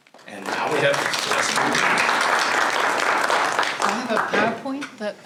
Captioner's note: applause